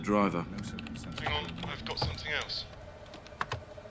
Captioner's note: man over phone